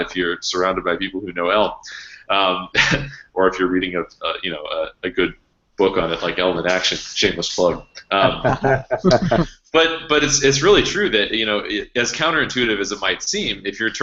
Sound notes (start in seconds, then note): 8.2 laughing